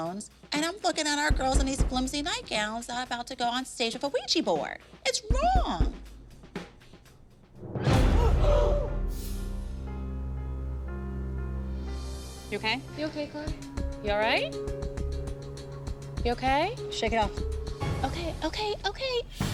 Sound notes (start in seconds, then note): 8.1 gasping; 8.6 tense music